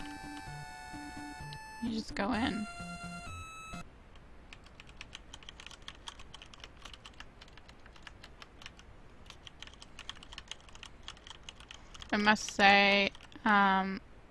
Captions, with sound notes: You just go in. [Keyboard clicking] I must say um